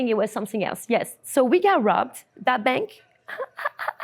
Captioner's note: laughs